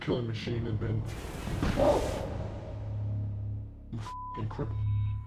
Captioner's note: shots fired; beep